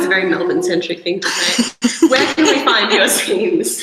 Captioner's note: bursts in laughter